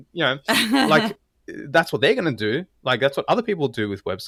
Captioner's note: laugh